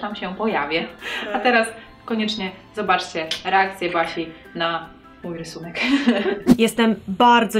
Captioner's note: laughs